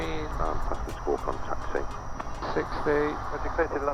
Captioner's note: man On Radio